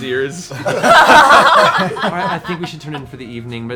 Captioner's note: laughter